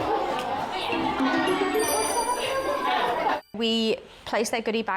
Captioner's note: people chattering; cheerful music